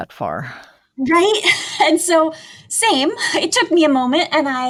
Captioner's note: laughs